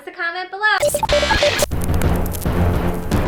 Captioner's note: static noise sound